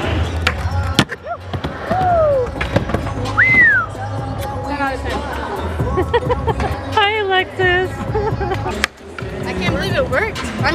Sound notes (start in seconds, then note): 3.3 whistle